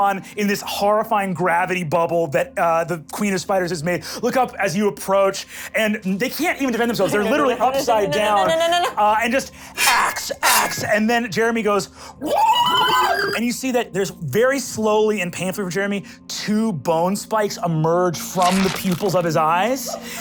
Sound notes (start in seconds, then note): 12.3 squeals